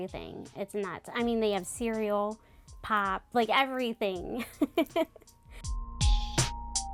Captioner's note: laughs; upbeat music